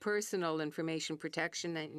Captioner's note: speaking French